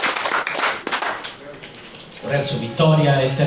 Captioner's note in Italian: Applauso